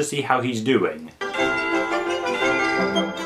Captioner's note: bell rings